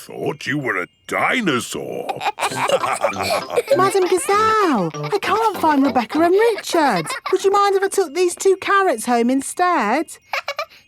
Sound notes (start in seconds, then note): 2.1 all laughing; 10.2 laughs